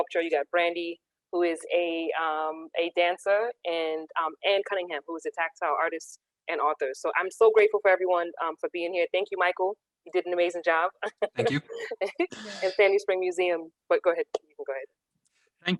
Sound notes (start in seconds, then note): 11.1 chuckles